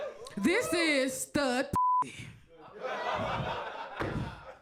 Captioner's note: beep